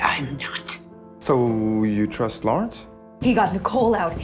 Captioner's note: voiceover